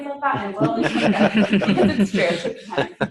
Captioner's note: laughing